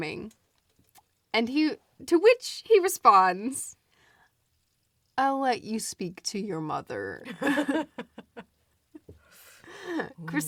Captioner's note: both laugh